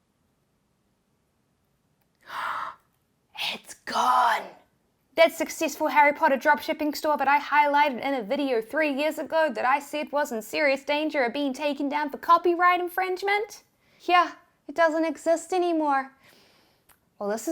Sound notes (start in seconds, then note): 2.2 gasps